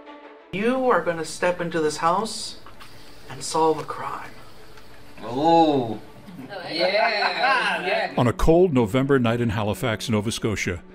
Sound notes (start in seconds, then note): 6.2 laughs